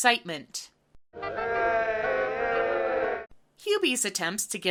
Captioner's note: half-hearted cheering